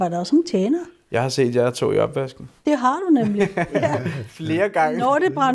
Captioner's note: laughs